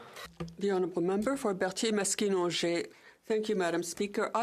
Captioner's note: speaking French